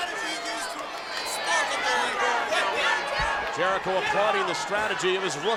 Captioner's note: crowd chatter